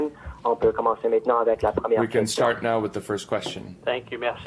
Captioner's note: voice of interpreter